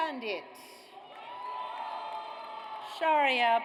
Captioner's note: audience cheers